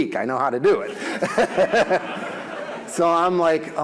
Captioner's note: audience laughs